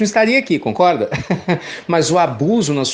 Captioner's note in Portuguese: Risos